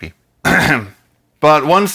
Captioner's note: cough